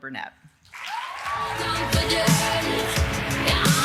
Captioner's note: audience cheering and applauding